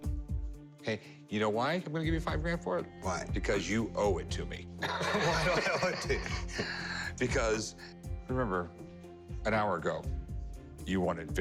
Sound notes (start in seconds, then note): 4.9 laughs